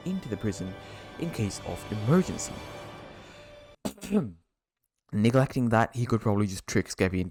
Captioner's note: ahem